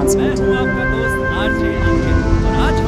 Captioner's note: Radio playing